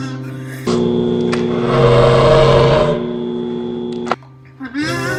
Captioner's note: the mating call of a velociraptor